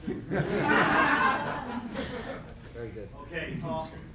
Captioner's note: laughing